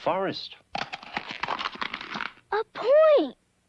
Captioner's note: cracking